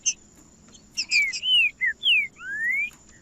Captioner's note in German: trinca ferro cantando